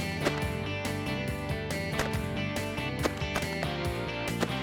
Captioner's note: multiple gun shots